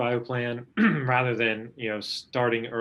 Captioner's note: clearing throat